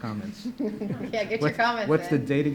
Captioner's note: laughs